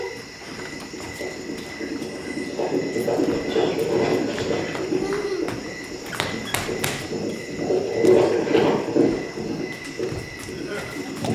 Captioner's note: galloping horse